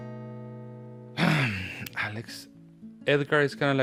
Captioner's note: exhales